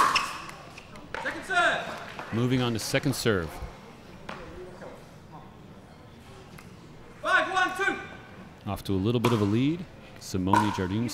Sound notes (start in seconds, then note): 5.6 players chattering